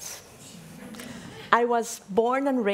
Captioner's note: audience laughing